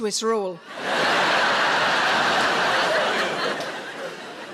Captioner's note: audience laughs